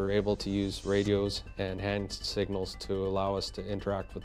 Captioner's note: voiceover